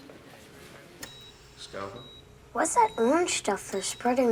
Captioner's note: monitor beeping